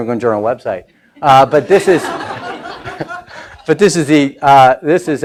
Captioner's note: laughing